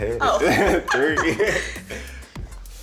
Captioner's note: laughs